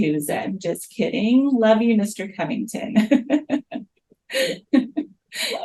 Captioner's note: laughs